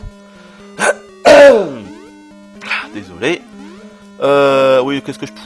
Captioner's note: clears his throat